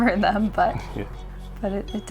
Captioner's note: chuckles